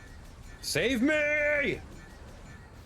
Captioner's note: yelling